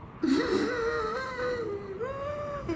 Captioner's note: gasps